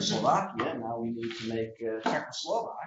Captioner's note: laughter